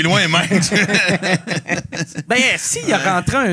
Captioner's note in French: rires